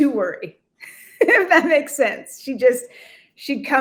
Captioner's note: laughing